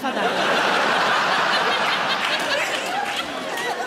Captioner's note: audience laughing